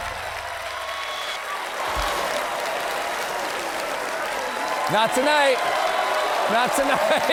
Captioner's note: applause